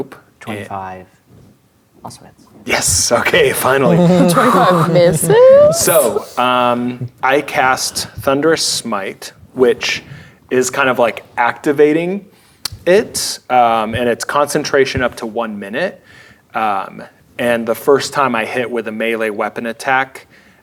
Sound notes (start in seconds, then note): 3.6 laughing